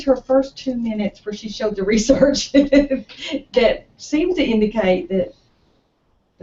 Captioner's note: laugh